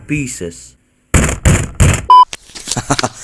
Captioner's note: more desk abuse